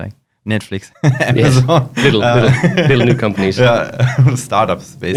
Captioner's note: laughing